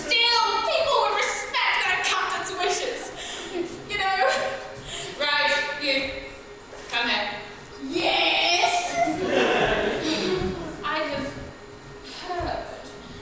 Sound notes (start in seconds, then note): 8.9 audience laughs